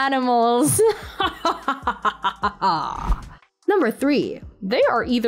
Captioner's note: evil Laugh